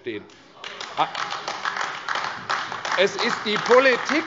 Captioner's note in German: Beifall AfD